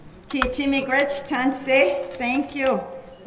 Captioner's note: speaking keres language